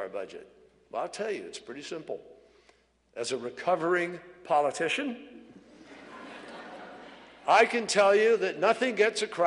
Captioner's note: laughter